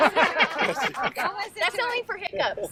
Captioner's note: group laughs